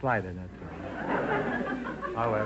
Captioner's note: audience laughter